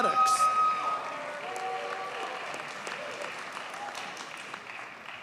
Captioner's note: audience cheers and applauds